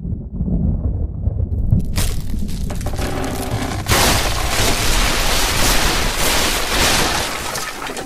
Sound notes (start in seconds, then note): 1.7 rumbling and Cracking